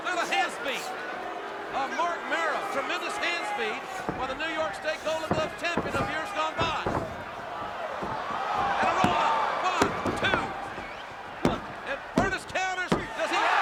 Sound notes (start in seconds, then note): 7.0 crowd shouting